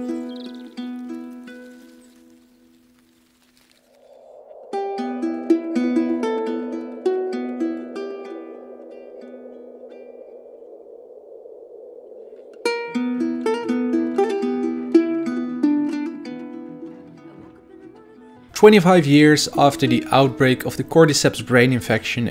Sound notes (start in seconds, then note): 0.0 bird chirping; 4.0 wind howling